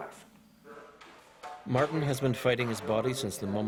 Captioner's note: voiceover